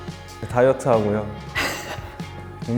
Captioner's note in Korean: 빵터짐